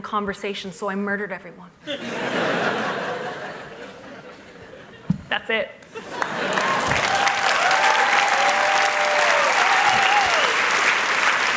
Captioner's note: applause